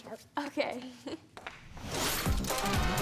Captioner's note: laughs; upbeat music